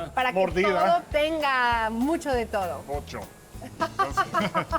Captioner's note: both speaking Spanish; laughter